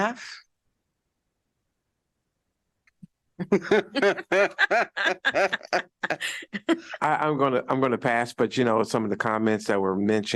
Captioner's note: laughter